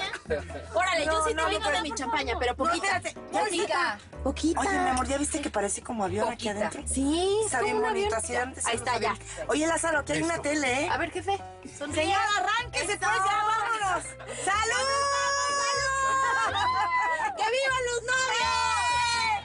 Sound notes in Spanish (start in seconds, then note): 0.0 Risas; 9.1 Hablan al unísono; 15.5 Risas y exclamaciones